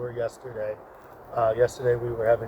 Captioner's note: ambient outdoor noise